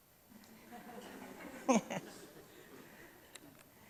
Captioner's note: audience chuckles